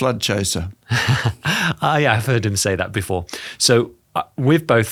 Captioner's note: laughs